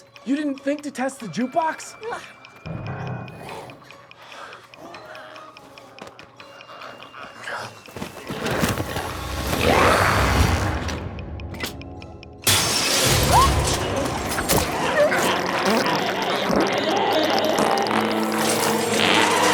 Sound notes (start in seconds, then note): 3.3 glowzies growling; 8.9 glowzies growling; 11.5 device clicking; 13.3 Kirsten yelps; 16.6 glowzie yells